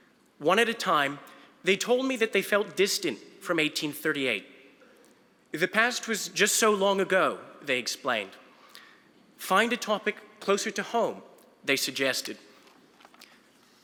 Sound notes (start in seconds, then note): none